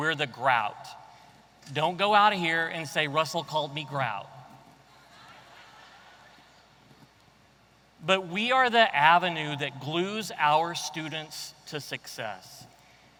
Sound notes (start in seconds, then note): 5.1 audience laughing